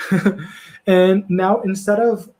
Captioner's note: laughs